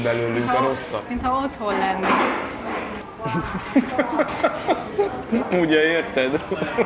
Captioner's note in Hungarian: nevetés